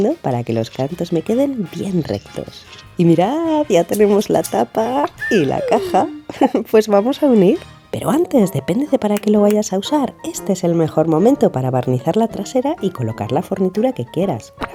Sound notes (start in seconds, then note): 3.8 laugh